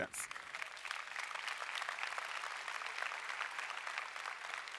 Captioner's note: audience applauding